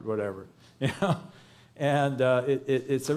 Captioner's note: chuckles